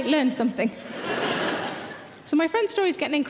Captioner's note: audience laughter